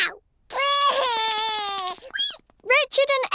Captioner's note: cries